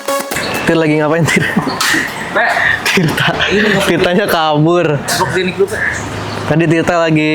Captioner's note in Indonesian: tertawa